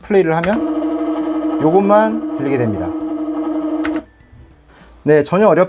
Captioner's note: motor sound